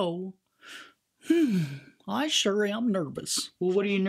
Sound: sighs

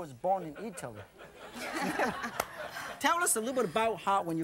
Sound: laughter; crowd

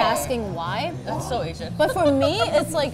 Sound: giggles

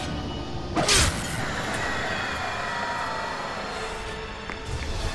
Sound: whirring

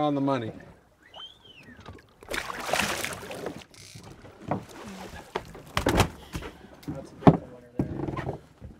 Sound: fish splashing

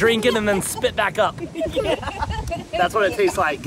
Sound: laughing

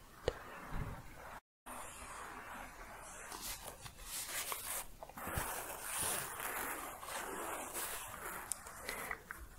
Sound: scratching continues

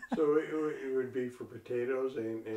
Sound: laughs

